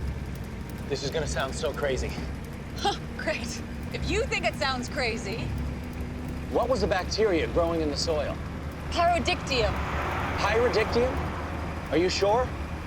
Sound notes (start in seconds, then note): 2.6 scoffs